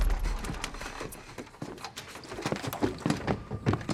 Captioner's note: panting